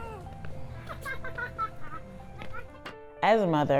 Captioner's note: child laughs